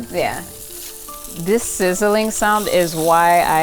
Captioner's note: spam sizzling